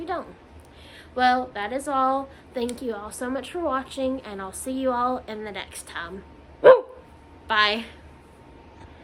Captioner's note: barks